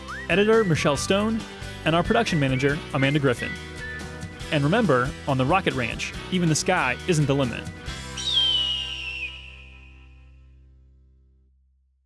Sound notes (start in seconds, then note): 8.1 eagle screeches